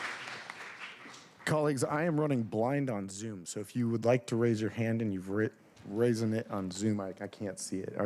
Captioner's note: applause